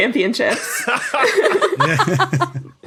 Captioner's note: group laughing